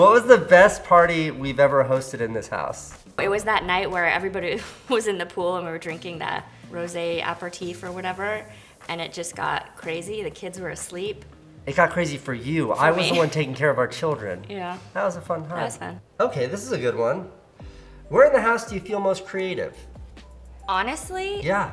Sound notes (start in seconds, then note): 12.7 laughs